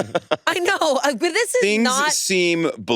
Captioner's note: all laughing; laughs